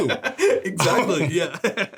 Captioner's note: laughs